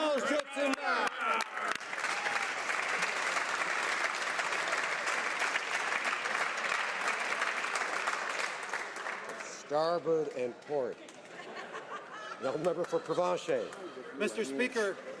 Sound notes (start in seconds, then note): 5.6 some Applause